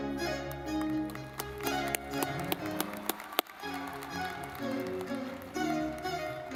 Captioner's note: lively music; audience clapping